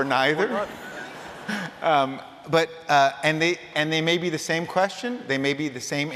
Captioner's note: laughter